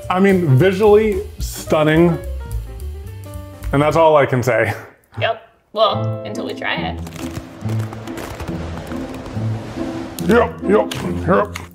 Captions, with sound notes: I mean, visually stunning. And that's all I can say. Yep. Well, until we try it. (wind swirling) (ice crackling) Yep, yup. Hup.